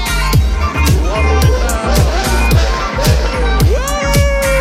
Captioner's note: engine roaring